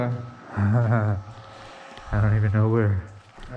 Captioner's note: nervous laughter